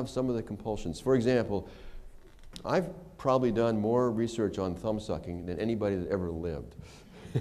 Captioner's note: laughter